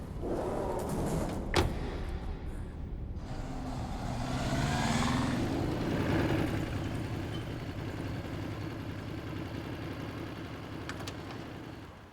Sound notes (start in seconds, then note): 0.3 doors thudding; 3.1 motorbike rumbling